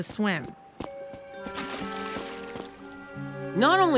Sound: water splashing

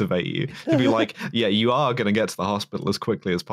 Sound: laughs

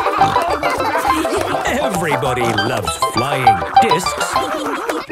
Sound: snorting and laughter; laughter

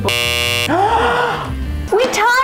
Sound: buzzer; gasp

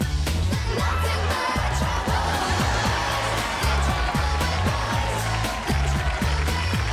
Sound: audience laughing and cheering

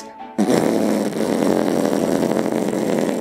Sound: farting

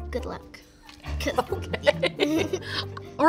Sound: laughs

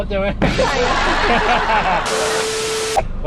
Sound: laugh

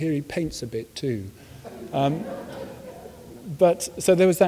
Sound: audience laughs

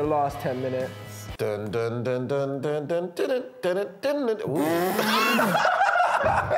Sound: laughs

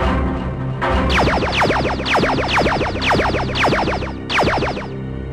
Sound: lasers firing

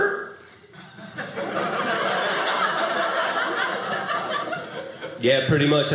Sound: audience laughing

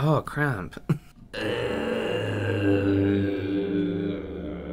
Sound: more Gagging Noises

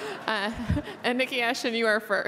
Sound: laughter

